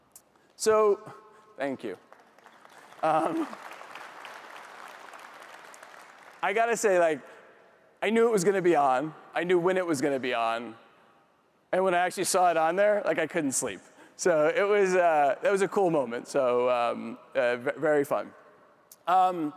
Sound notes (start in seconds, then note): 2.0 audience applauds; 3.0 chuckles